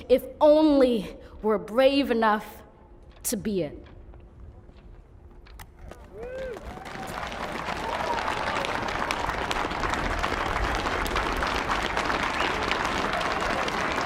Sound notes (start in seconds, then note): 7.1 la audiencia aplaude; 8.1 la audiencia aplaude levemente